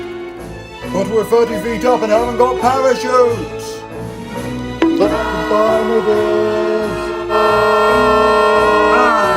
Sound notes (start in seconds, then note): 4.8 bonk!